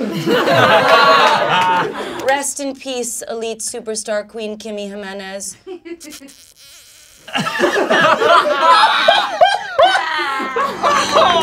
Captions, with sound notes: (laughing) Rest in peace, elite superstar, queen Kimmy Jimenez. (laughing)